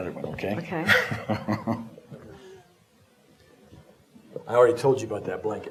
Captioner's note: chuckles